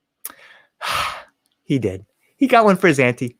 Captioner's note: sighs